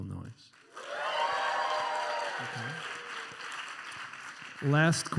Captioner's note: enthusiastic cheering and applause